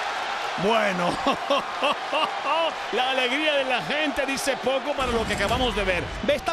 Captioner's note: laugh